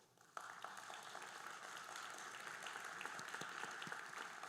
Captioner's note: audience applauding